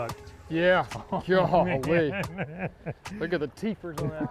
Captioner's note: chuckling